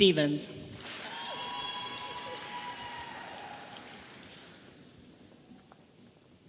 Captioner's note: audience applauding and cheering